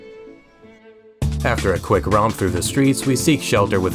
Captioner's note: boooooooooooooooooooooommmmmmmmmmm